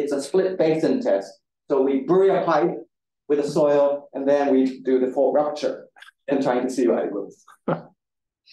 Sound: guffaw from audience member

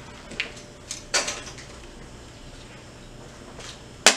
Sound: glass clattering

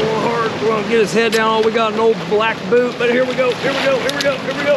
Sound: fish splashing

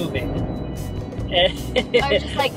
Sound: laughs

